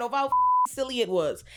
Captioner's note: beep